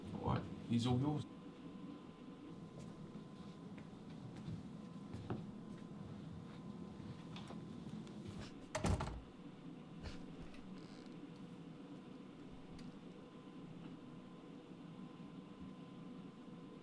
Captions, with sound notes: - All right, he's all yours. (door closing)